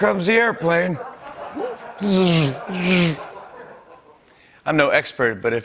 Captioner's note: laughter